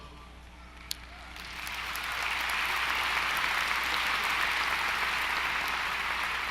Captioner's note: applause